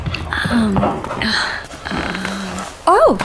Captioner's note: sighs